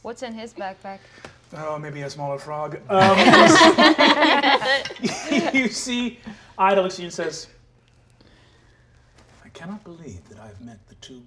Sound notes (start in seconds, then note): 3.0 all laugh